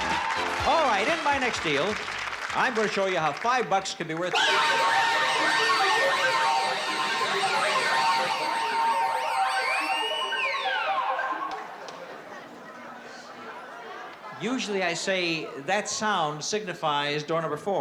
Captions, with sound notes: All right, in my next deal, I'm going to show you how 5 bucks can be worth-- [ALARMS RINGING] Usually, I say that sound signifies door number four.